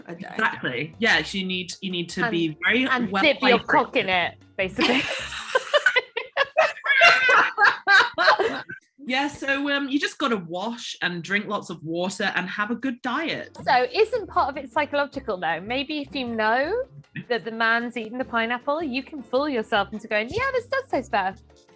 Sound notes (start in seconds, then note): 4.9 laughing